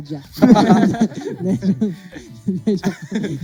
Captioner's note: laughs